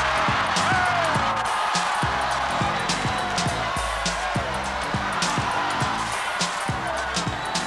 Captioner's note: applause